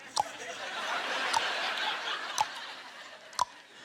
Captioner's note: tongue clacking